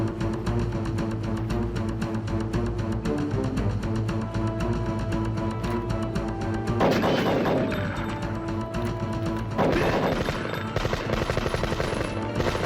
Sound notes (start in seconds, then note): 6.7 gun fires; 9.4 guns firing